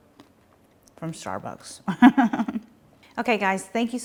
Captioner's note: laughs